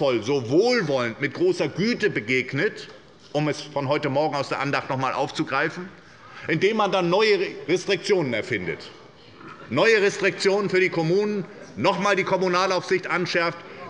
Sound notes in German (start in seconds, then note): none